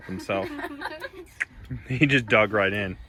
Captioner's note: laughs; clicks